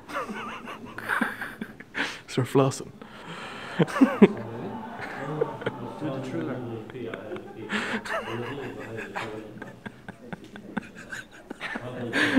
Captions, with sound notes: [Laughs like a hyena] Start flossing! [Continues the Hyena laugh]